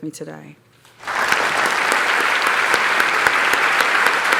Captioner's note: applause